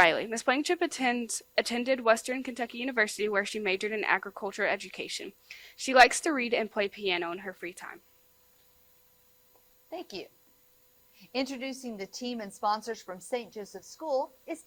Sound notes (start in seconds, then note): none